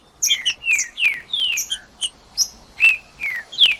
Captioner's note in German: trinca ferro cantando